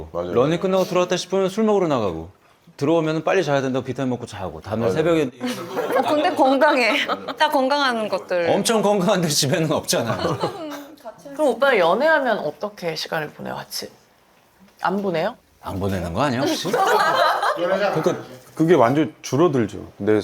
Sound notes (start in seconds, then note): 10.0 chuckles